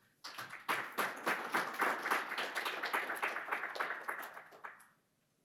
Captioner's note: audience claps